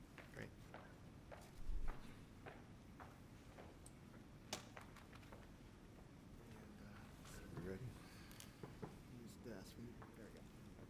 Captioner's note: footsteps